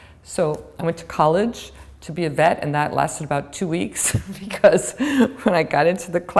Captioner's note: chuckle